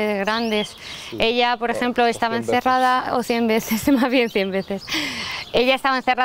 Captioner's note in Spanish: risas